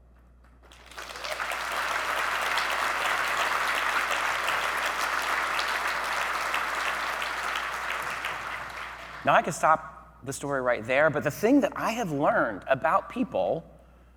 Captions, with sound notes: (audience clapping) Now I can stop the story right there, but the thing that I have learned about people